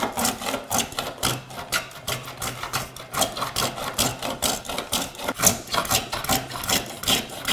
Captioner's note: blade on wood continues rhythmic scraping